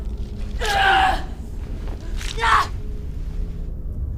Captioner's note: Kali groaning